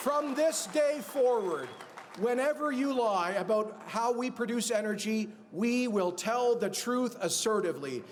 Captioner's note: cheers and applause